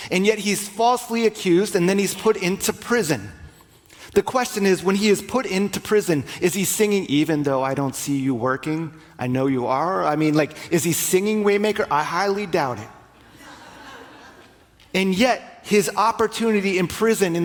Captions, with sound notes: and yet he's falsely accused and then he's put into prison. The question is, "When he is put into prison, is he singing, 'Even though I don't see you working, I know you are?'" I mean, like, is he singing "Waymaker?" I highly doubt it. (Congregation laughing) And yet his opportunity in prison